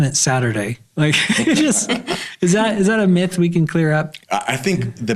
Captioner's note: all laughing